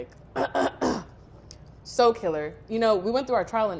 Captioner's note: clears throat